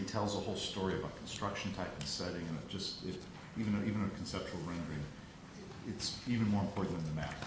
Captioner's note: none